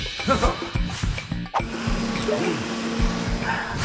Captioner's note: vacuum humming